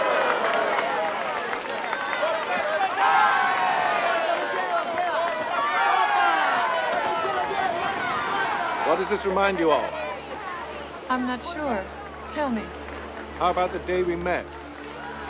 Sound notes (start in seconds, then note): 2.8 cheering